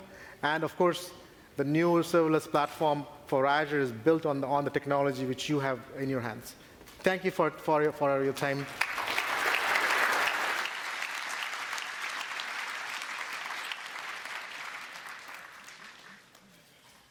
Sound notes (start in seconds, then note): 10.6 applause